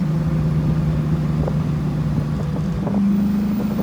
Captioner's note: engine runs